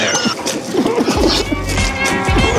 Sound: man choking

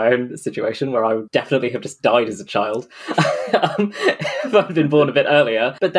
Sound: laughs

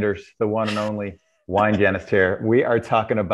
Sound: laughs

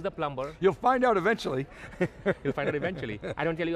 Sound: laughs

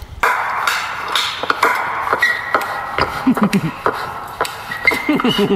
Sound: clapping and shoe squeaking

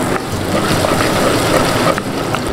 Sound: drizzling sounds; stir

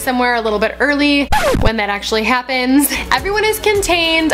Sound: record scratch

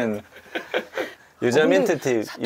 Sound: giggling

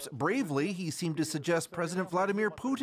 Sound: speaking foreign language

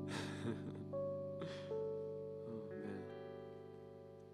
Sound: laughing faintly

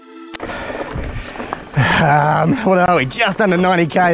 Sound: pants

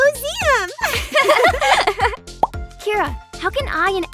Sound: girls laugh

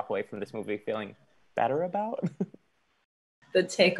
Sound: chuckles

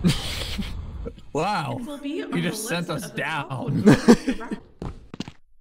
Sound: laughs; laughs

